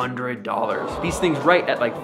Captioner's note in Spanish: Multitud gime